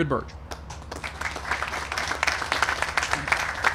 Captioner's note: applause